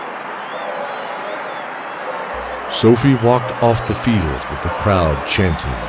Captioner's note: chanting